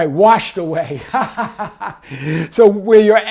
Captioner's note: chuckles